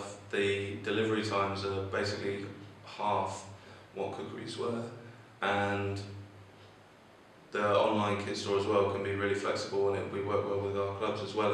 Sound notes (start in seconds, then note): 3.5 awkward breathing noise